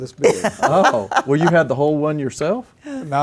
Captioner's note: laughter